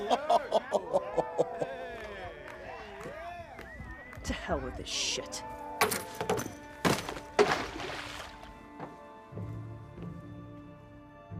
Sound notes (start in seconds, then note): 0.0 Radovan laughing; 6.8 kick thumps; 6.8 water splashes